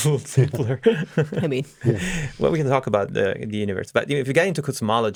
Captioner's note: laughs